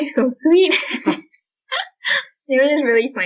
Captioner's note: laughter